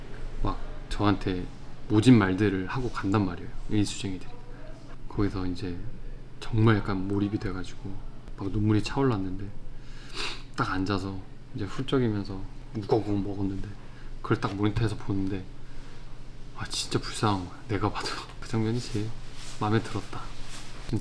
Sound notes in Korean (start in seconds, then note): 9.8 훌쩍